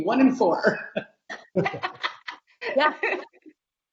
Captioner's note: laughing